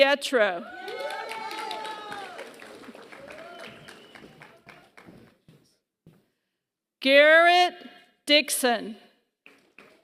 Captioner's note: applause; applause